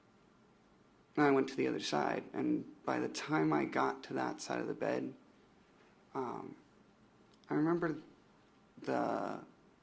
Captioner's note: sighs